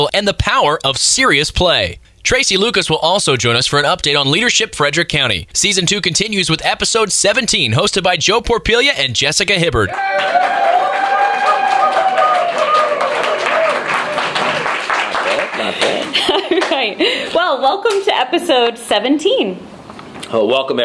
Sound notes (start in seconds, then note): 9.8 applause and cheering; 14.9 laughing